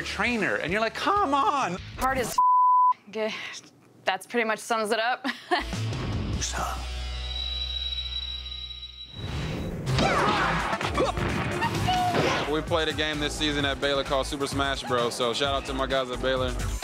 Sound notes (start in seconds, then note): 5.2 chuckles; 9.8 fighting sounds